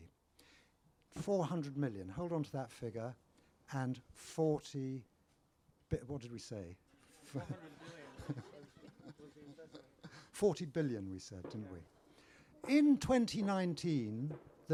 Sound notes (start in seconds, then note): 9.2 laughter